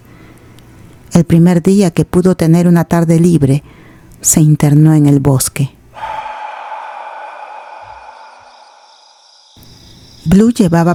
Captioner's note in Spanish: suspiro